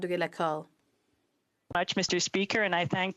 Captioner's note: speaking in French